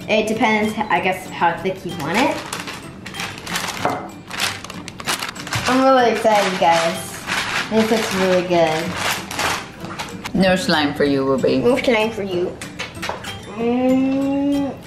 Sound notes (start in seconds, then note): 4.2 parchment paper crackling; 12.8 loud kissing